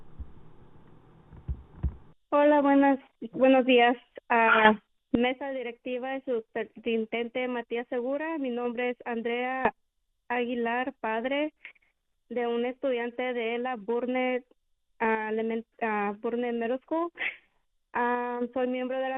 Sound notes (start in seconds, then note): 6.0 speaking spanish